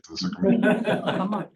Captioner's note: laughter